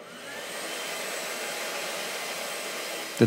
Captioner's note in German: Schleifgeräusche